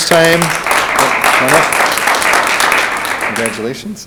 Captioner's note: audience applauds